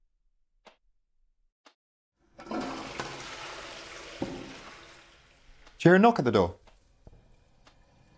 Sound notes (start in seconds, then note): 2.2 toilet flushing